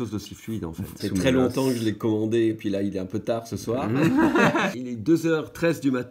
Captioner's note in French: rires